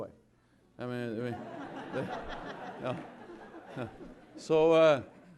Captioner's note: laughter